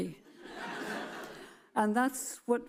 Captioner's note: audience chuckles